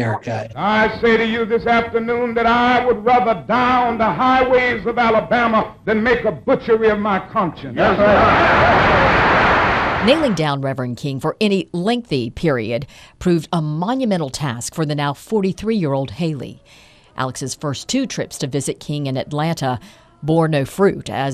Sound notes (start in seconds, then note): 7.7 crowd cheering; 8.9 applause